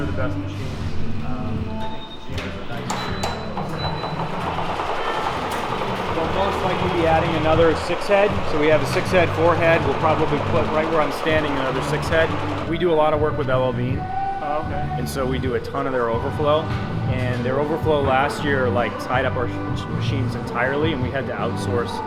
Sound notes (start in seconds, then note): 5.6 machines thumping